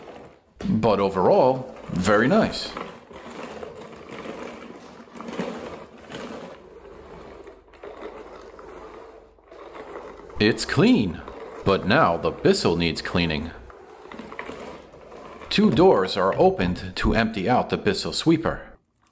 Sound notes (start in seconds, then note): 3.5 more cleaning sounds